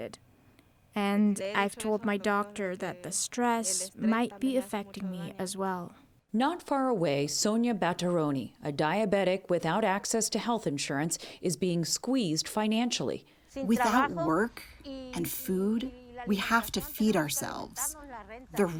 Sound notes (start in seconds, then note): 14.3 through translator